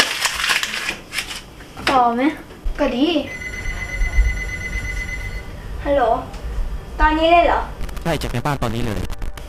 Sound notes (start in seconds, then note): 3.2 smart watch ringing